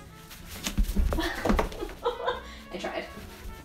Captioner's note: laughs